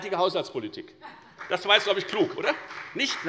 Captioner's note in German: Beifall bei der FDP